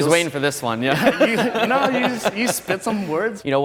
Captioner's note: laughter